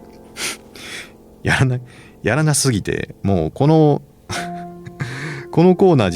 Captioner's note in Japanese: 鼻息